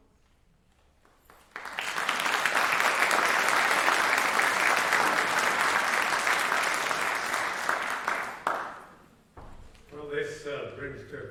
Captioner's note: applause